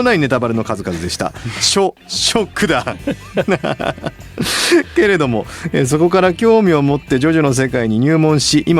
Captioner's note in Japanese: 笑い